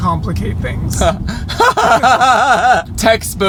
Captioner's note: everyone laughs